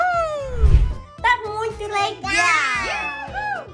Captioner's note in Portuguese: efeito sonoro de transição